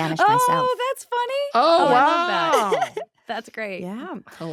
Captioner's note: laughs